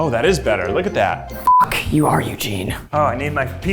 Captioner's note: beep